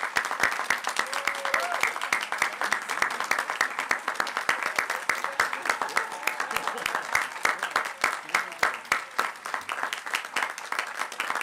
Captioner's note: applause